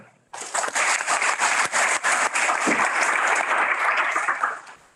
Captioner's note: audience applauds